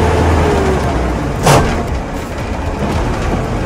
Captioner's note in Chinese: 變速箱銅索套牙撞擊聲